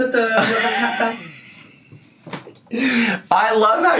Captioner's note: softly laughing